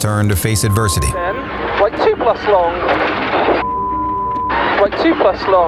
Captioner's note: beep